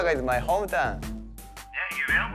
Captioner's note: on phone